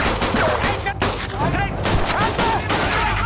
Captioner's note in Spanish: Disparos; Gritos